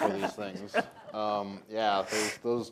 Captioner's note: laughter